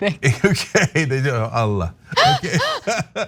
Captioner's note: laugh